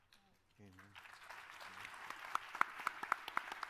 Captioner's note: applause